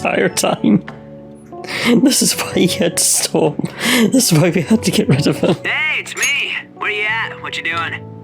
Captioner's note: laughs